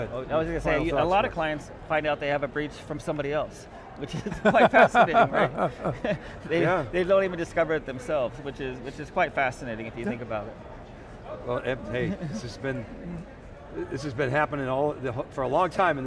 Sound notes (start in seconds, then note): 4.0 chuckles; 4.2 laughs